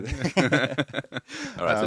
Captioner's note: laughing